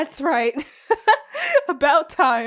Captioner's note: chuckles